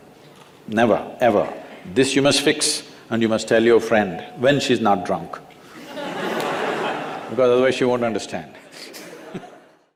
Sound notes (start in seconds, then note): 5.7 laughter; 8.0 laughs